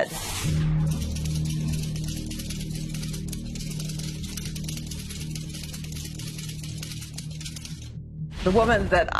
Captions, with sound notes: of their own, or an ability to do what she did. [typewriter sounds]